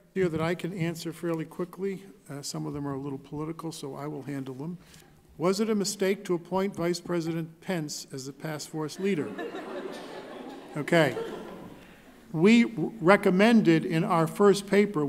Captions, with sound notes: - Here that I could answer fairly quickly. Some of them are a little political so I will handle them. Was it a mistake to appoint Vice President Pence as the task force leader? (laughing) Okay, we recommended in our first paper